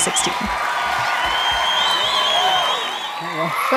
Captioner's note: theme music plays; raucous audience applause and cheering